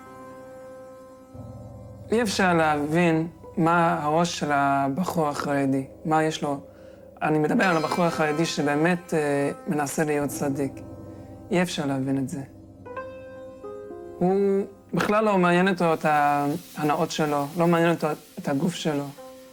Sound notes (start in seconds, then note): 2.2 speaking in foreign language